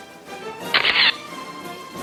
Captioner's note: orchestral music; camera shatters